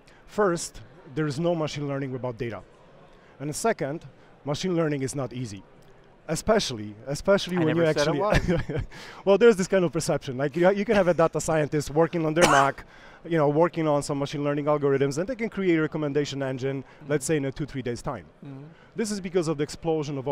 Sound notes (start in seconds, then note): 8.0 laughs